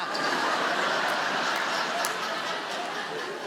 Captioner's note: audience laughs